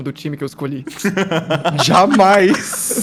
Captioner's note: laughs